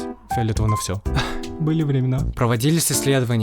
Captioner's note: sigh